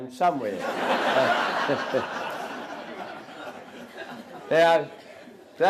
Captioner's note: audience Laughter